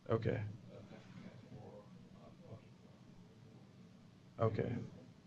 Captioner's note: pause